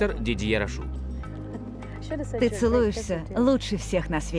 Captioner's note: chuckles